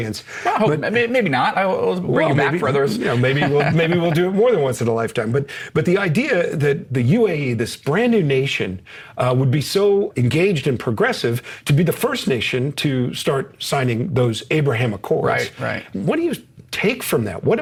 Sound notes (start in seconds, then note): 2.7 laughs